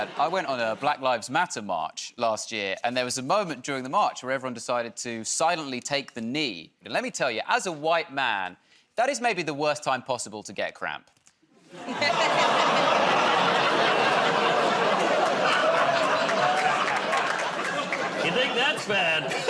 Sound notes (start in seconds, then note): 11.7 laughter; 15.5 audience "Oh"s